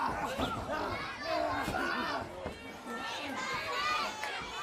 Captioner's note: crowd chatter